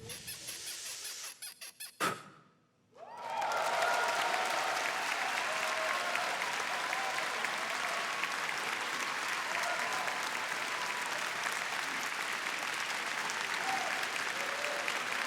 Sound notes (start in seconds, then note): 3.0 applause